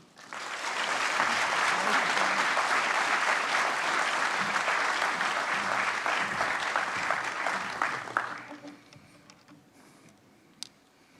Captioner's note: applause